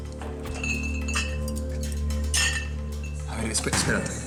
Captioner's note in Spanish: ruido con las botellas